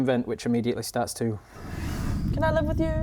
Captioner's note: whoosh